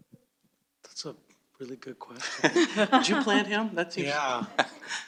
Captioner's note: laughs